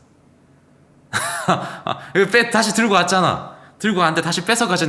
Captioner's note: laughs